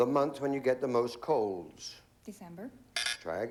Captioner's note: buzz buzz